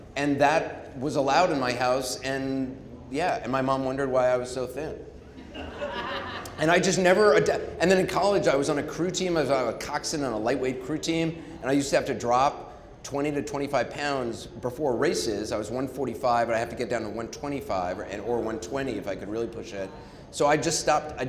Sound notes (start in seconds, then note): 5.2 audience chuckling